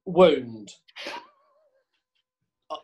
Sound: sniggering

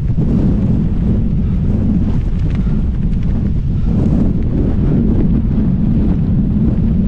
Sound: huffing & puffing; wind gusts

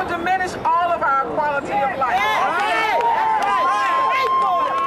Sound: crowd cheers

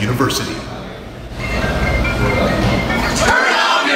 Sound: a phone rings

